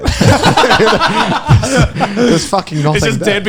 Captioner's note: all laughing